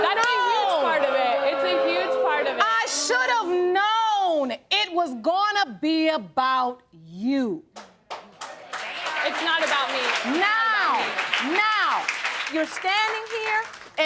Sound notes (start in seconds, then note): 8.0 audience applauding